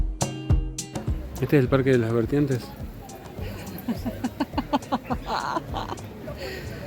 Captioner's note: laughs